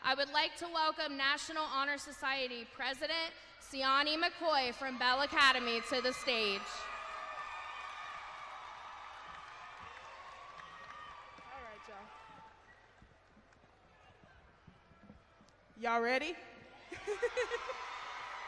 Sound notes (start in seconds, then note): 8.4 cheering; 16.9 laughs